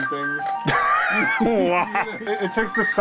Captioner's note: laughter